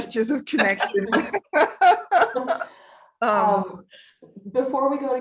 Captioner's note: laughs